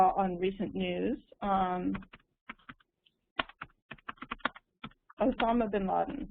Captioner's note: typing